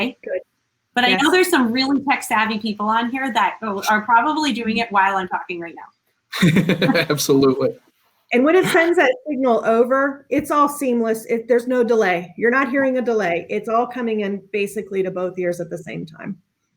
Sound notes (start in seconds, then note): 6.3 laughs